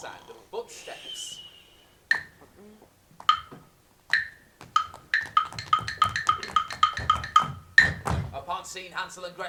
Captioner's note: footsteps